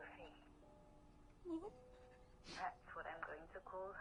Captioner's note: sobbing